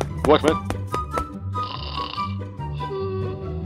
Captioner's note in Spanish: ronca